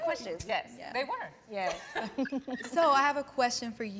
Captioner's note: laughing happily